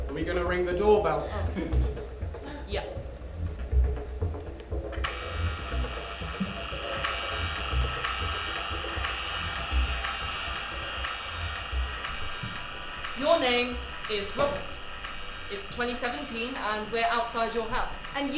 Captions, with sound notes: Are we gonna ring the doorbell? Yup. [DOORBELL BUZZES] [DOORBELL SOUND LOOPS AND CONTINUES] Your name is Robert. It's 2017, and we're outside your house.